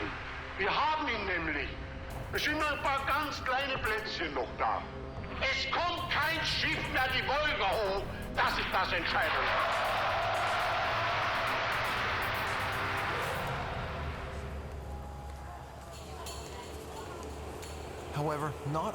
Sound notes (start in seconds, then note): 10.7 cheers and applause